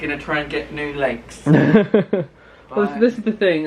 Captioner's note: laughs